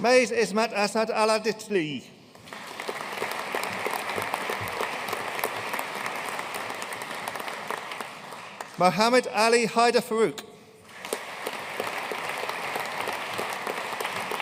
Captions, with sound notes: Mais Ismat Asa'D Al-Attili. (AUDIENCE APPLAUDING) Mohammed Ali Haider Farouq. (AUDIENCE APPLAUDING)